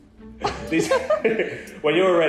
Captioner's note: laughing